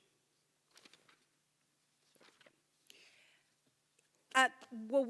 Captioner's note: paper rustling